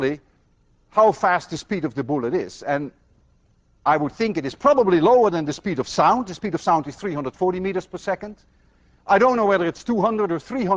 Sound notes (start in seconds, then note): none